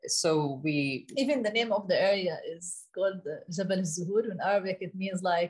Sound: speaks arabic

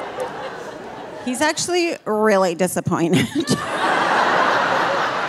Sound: laughing; audience laughing

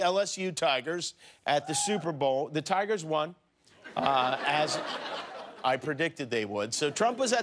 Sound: laughter

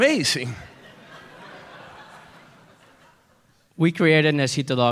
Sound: laughter

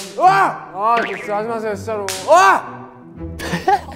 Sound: screaming at every bang snap

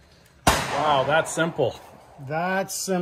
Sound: gun bangs

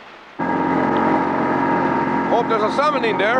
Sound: boat motor rumbling

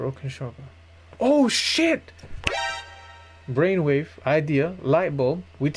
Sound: MGS Alert Sound

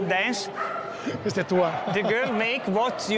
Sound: laughs and speaks in Italian

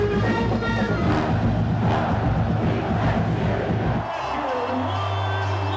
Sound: band plays; crowd

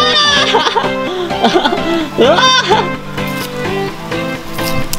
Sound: laughing

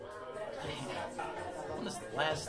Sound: people talking

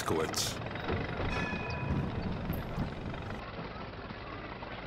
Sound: muffled buzzing

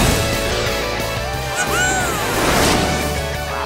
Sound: squealing

